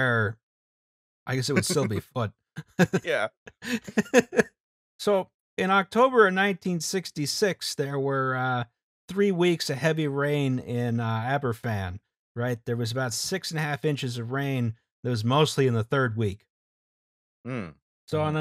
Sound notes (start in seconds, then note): 3.6 laughter